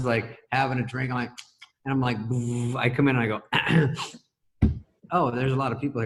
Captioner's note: clears throat